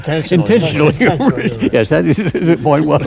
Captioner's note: laughter